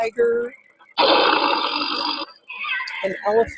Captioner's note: tiger growling